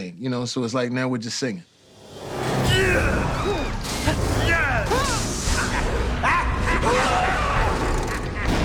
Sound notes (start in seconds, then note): 5.5 goblin laughs; 6.1 Spider-Man screams